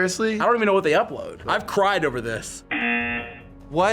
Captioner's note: buzzer